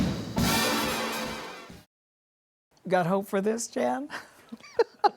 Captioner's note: laughs